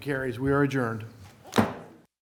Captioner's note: gavel